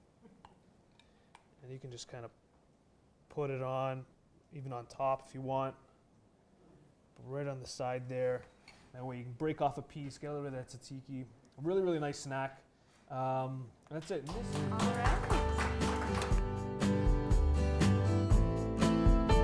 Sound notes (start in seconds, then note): 14.2 clapping